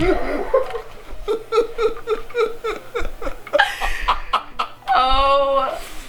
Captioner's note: laughter